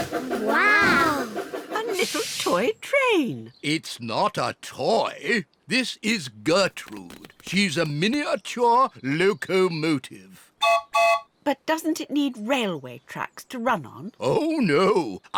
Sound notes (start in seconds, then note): 10.6 toots whistle